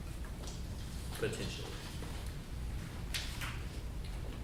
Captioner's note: none